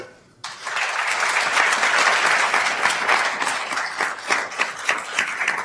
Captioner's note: attendees applauding